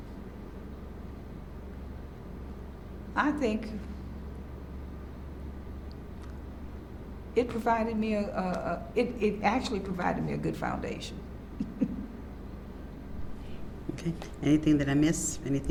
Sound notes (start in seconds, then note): 11.6 laughs